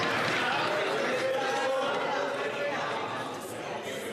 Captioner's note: applause